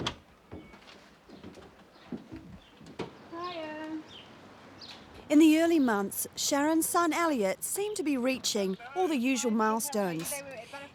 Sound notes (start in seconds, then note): 0.0 door opening; 3.4 lady calling out